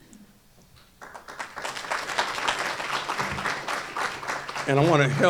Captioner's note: applause